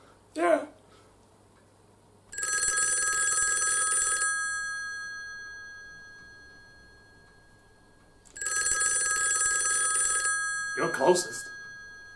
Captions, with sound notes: Yeah! [Phone rings] [Phone continues ringing] You're closest.